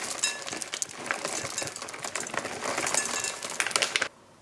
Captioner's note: clattering